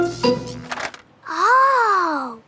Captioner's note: buzzing